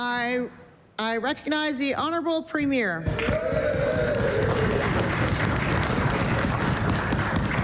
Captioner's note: applause